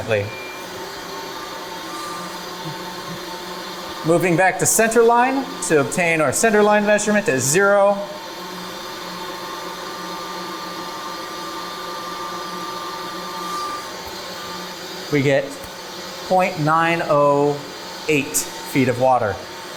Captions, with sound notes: Moving back to center line to obtain our center line measurement at zero, (pipes hum) we get .908 feet of water.